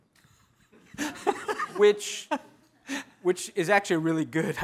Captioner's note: laughing